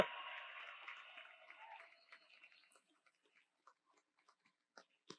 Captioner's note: audience applauds